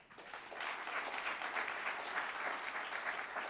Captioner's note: applauding